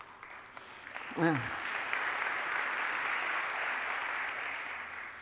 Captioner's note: applause